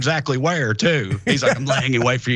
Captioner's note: laugh